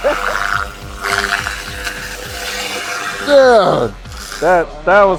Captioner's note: laser whizzing